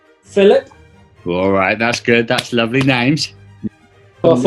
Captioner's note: clapping